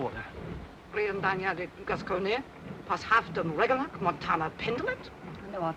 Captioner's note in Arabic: البارونة تتحدث لغة أجنبية